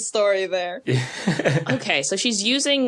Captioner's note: snickers